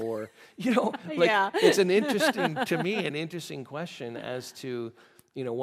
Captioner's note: laughing